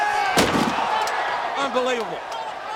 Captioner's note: audience cheering; table thuds